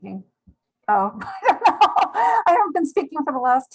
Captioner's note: laughs